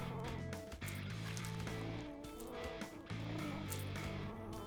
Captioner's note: Mathilde purring